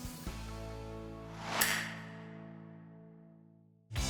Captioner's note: snap